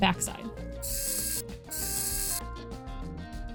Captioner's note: wow Sick Screw Noises